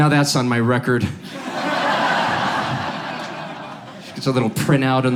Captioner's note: audience laughs